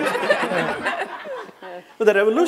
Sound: laughter

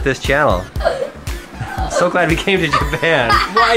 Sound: laughs

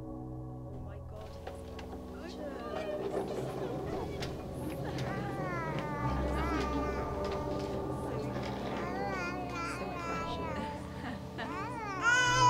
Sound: distant happy chatter, sound of babies crying

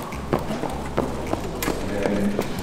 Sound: running

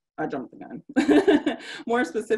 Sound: laughing

